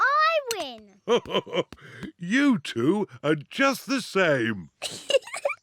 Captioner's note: laughs; giggling